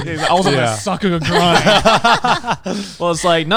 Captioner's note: everyone laughing